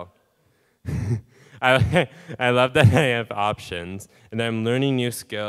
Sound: laughing

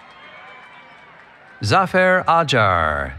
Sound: cheering

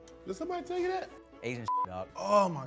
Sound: beep

